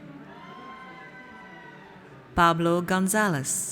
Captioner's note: audience cheers